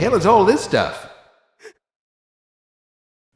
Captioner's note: whimper